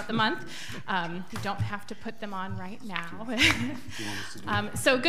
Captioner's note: laughs